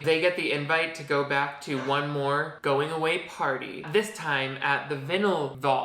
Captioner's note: none